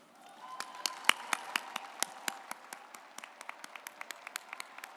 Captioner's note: audience applauds